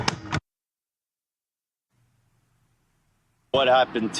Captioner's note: silence